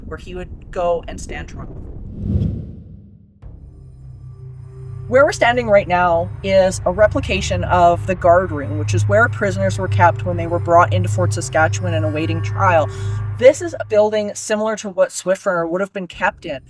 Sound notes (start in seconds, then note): 1.6 air whooshing; 2.3 pensive music